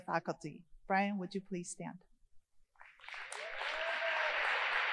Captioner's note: applause